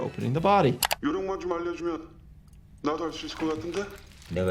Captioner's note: mouse clicks; men speaking in foreign language